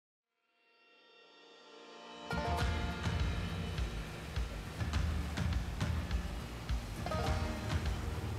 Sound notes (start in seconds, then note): 2.3 upbeat country music; 4.3 boat engine running